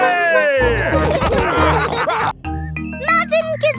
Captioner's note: all laughing